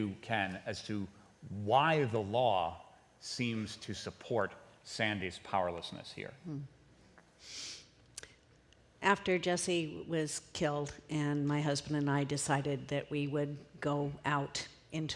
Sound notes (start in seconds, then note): none